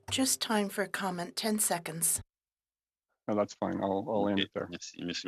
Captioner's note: speaking French